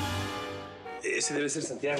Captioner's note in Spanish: ruido de claxon